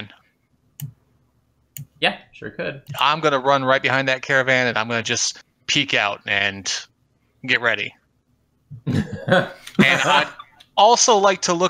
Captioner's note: laughter